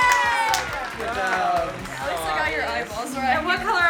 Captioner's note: family claps